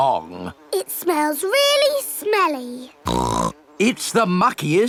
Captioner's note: snorts